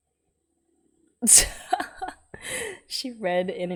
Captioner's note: laughs